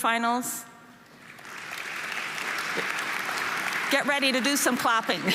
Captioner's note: audience applauding